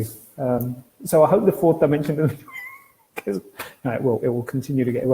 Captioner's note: laughs